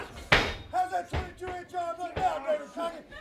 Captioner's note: crowd chatter